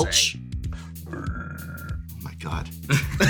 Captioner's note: repeats Kaldheim metal noise; laugh